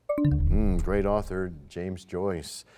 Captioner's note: bell chimes, time expires